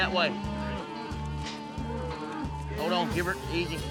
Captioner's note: mooing